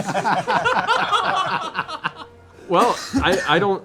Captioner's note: laughter